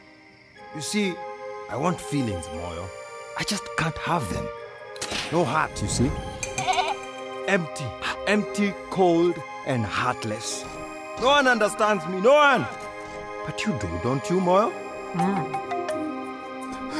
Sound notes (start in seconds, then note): 4.5 clicking; 6.5 bleating